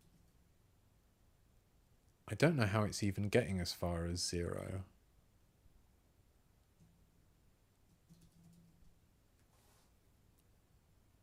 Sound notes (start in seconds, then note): 0.0 silence; 4.8 silence